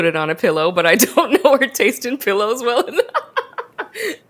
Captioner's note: laughs